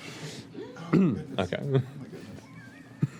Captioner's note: laughter